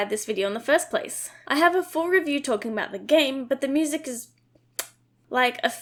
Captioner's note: mwah